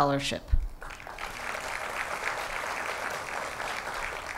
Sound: applause

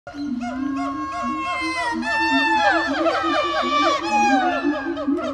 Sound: animal and nature sounds

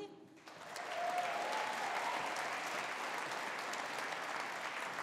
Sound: audience applauding

